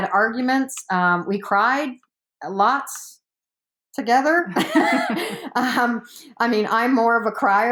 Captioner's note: laughs